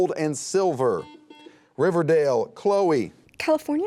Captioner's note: buzzer beeping